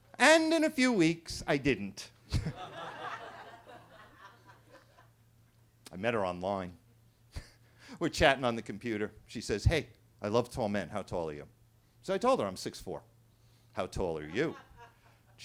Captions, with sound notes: And in a few weeks, I didn't. (attendees laughing) I met her online. (chuckles) We're chatting on the computer. She says, "Hey, I love tall men. How tall are you?" So, I told her, I'm 6'4". How tall are you? (attendee laughing)